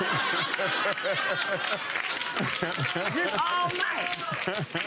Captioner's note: audience applauding